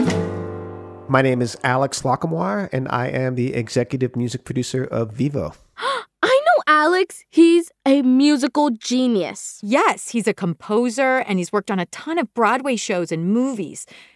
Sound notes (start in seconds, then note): 5.7 gasps